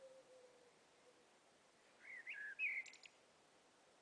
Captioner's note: birds chirping